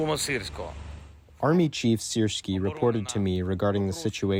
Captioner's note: through translator